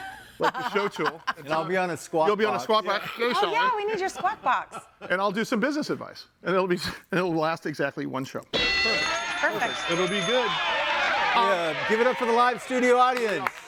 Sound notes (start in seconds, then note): 0.0 laughing; 8.5 bell dinging; 13.5 audience applauding